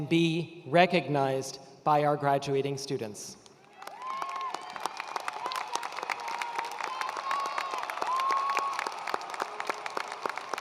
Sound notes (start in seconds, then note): 3.6 attendees cheering and applauding